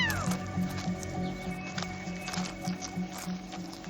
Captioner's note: kea hoots